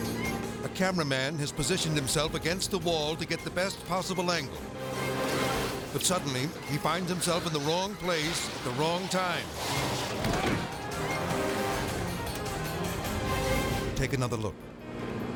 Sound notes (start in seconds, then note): 9.9 person shouts; 10.2 body thumps; 15.1 car revving